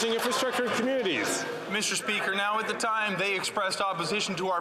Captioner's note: some Applause